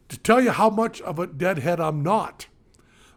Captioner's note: none